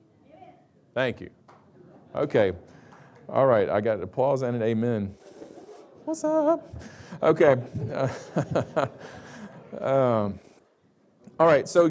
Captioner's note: laughs